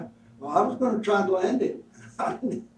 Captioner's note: laughs